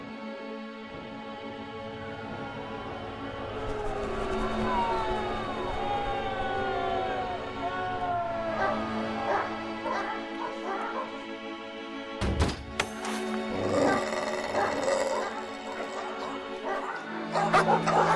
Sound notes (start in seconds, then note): 3.0 crowd booing; 8.6 dogs barking and growling; 11.7 door rammed; 13.5 dogs barking and growling